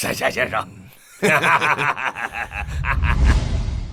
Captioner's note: laughs triumphantly